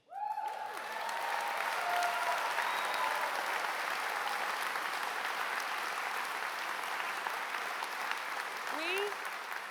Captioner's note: applause